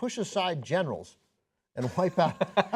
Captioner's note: laughter